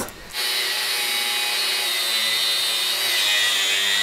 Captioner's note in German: Maschinenlärm